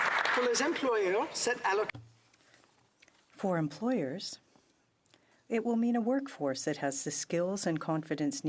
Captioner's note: applause